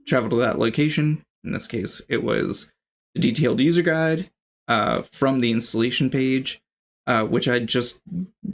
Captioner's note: uh